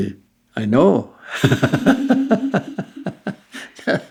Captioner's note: laughter